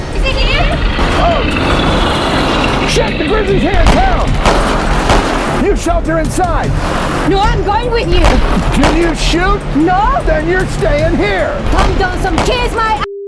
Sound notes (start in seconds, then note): 0.0 gun fires; 3.6 guns fire